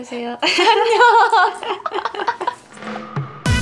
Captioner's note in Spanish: risa